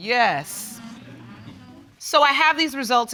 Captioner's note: audience exclaiming